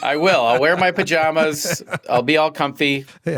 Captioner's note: laughter